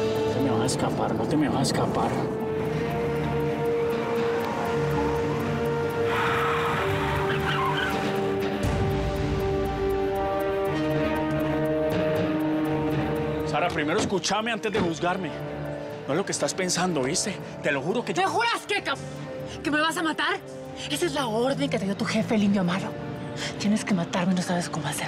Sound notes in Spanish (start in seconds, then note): 6.2 chirrido de llantas